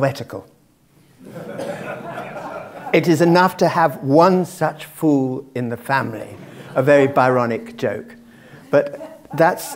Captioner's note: laugh